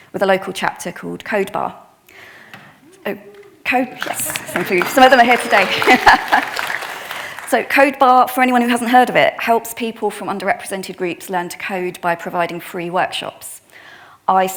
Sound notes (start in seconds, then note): 2.8 attendee cheering; 5.9 attendees applauding; 5.9 laughs